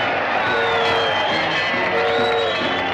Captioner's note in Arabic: هتافات الجمهور; صافرات القطار; موسيقى مبهجة